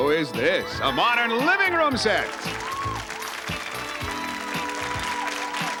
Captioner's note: audience applause